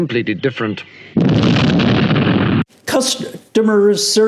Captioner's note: explosion erupts